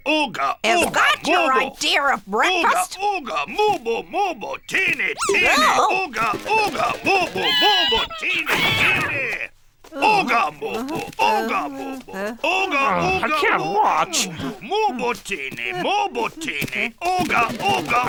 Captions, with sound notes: - Is that your idea of breakfast? (chanting in foreign language) - Ugh, I can't watch. (chanting in foreign language)